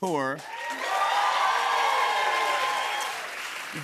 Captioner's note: cheers and applause